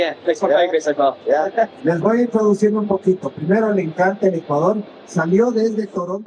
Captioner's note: spanish